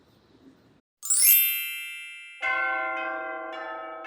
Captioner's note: wedding bells chime